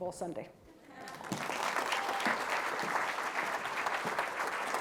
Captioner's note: audience clapping